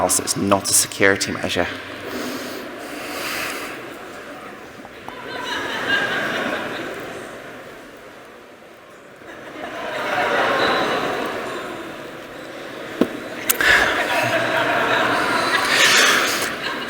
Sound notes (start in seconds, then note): 5.1 scattered laughter; 10.8 laughter